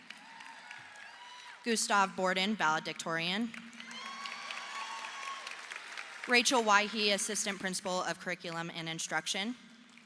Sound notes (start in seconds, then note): 3.6 audience applauding